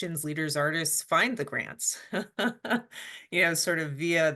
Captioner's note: chuckles